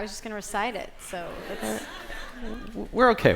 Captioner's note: laughter